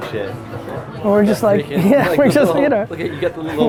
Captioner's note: laughs